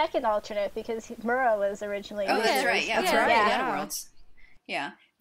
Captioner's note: chorus of agreements